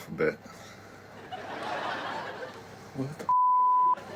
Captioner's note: audience laughs